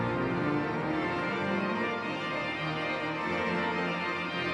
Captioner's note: none